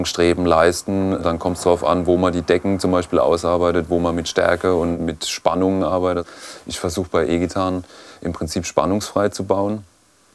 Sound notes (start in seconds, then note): none